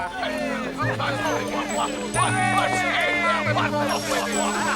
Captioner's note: people cheering